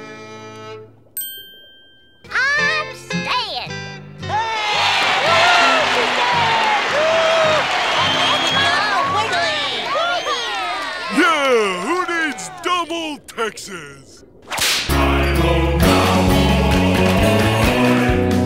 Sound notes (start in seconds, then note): 4.2 cheering